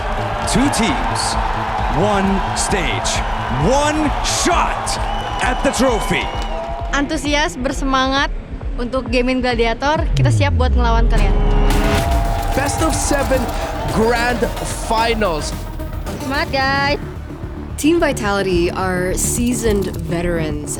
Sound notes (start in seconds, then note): 12.4 commentator in English; 16.1 in Indonesian; 18.0 in English